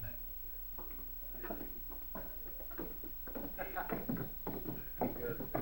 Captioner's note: indistinct chatter